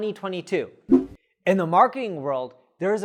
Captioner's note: air swooshes